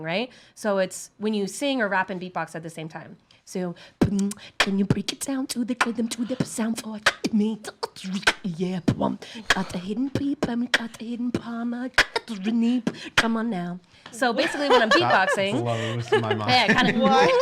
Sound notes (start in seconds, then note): 4.0 beatboxing